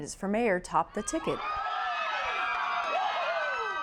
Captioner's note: crowd cheering